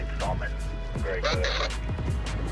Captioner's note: radio communication